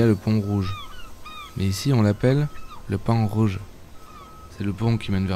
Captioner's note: with local accent